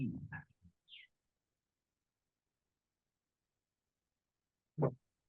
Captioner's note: birds chirping